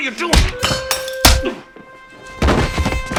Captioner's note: smacking